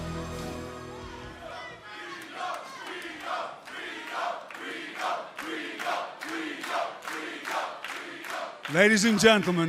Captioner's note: crowd cheering